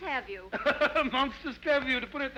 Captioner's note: Joseph laughs